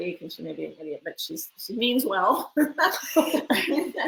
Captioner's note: laughs